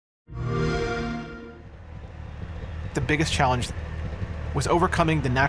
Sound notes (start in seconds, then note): 0.3 xbox sound